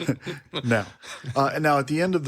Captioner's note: laughs